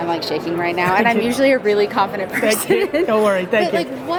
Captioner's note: laughs